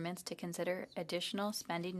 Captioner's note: speaking French